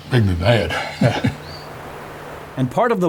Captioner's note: laughs; birds chirping